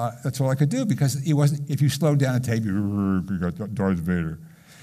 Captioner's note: low, growly